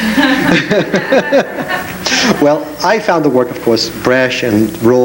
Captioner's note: laughs